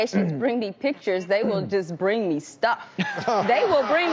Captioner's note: crowd laughing